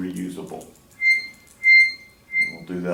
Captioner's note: squeaking